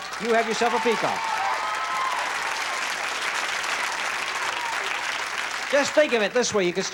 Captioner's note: applause